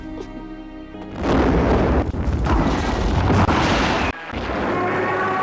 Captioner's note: explosions booming